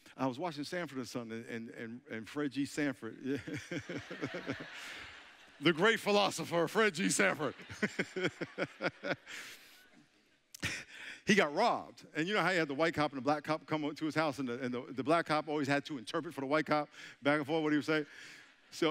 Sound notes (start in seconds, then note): 3.7 all chuckling; 10.7 laughing